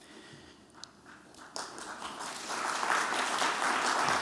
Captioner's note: applause